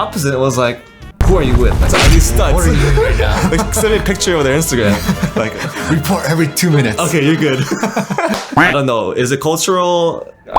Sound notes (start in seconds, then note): 5.4 laughs; 7.1 laughter